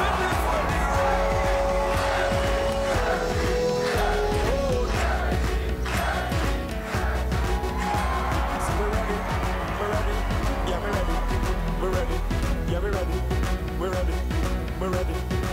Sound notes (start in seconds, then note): 3.7 chanting